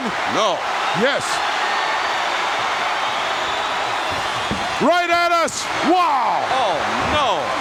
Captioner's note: applause